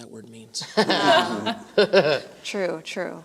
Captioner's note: laughter